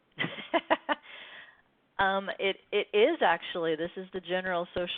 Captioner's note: laughs